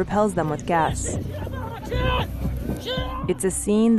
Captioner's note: shouting